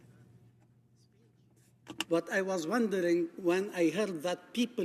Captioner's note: speaking French